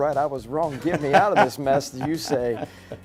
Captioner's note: laughing